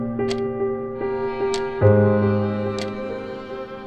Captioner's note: clock ticks